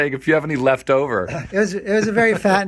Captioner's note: laughing